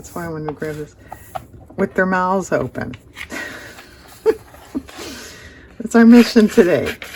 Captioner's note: laughs